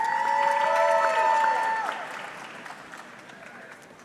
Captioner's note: audience cheering